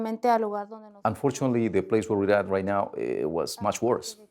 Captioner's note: woman speaks Spanish